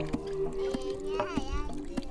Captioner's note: child talking